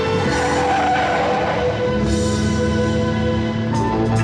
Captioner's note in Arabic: اصوات صرير الاطارات